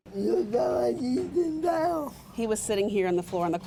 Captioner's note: speaking in foreign language